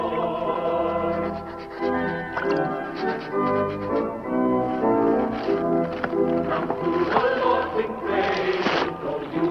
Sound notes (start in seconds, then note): 0.9 footsteps